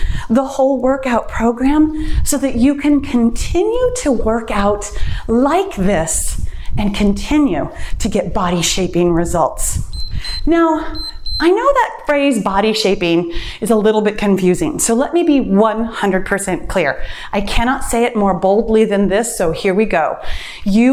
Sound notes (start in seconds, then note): 9.8 timer beeps